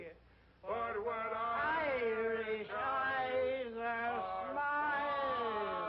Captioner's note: slurring his speech